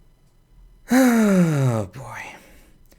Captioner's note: sigh